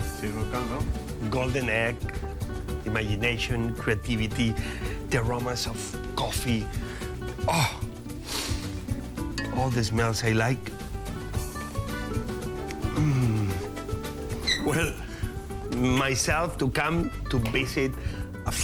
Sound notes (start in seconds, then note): 8.2 sniffs deeply